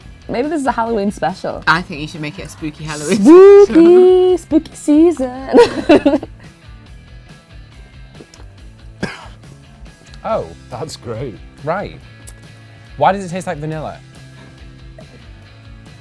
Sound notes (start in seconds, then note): 5.3 laughs; 9.0 coughs